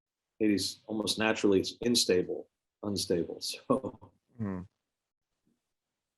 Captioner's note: chuckles